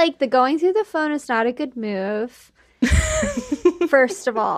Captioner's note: laughs